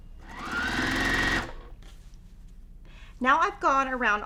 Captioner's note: sewing machine whirring